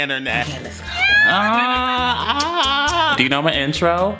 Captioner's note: kissing and squeeling noises